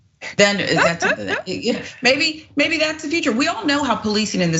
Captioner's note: laugh